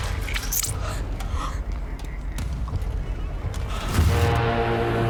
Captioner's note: sword sheathing; group gasping; ominous music